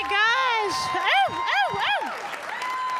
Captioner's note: cheering; audience applauding